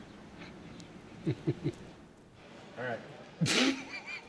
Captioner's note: laughing; laughing